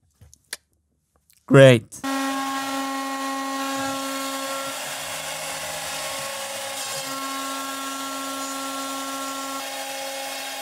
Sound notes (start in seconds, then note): 2.0 CNC machine noise